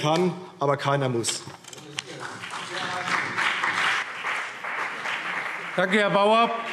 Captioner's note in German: Beifall CDU und BÜNDNIS 90/DIE GRÜNEN